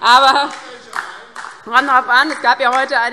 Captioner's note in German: Beifall DIE LINKE